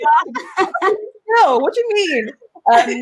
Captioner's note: laughs